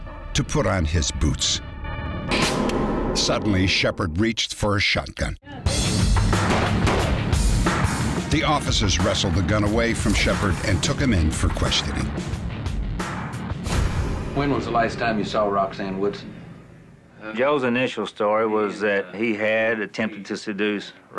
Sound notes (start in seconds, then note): 6.3 shots firing